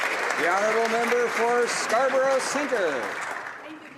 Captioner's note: applause